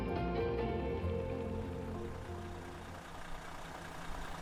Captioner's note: laughing; engine running